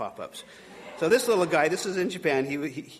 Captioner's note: audience laughing